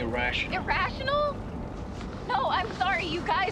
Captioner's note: none